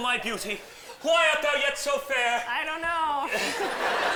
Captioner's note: laughter